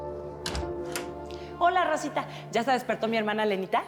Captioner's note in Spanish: sonido al abrir la puerta